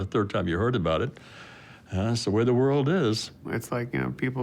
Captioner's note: sighing